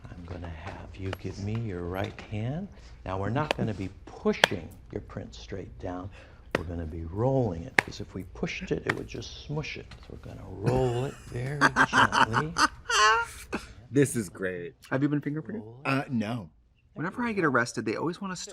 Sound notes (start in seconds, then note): 10.6 Trixie laughs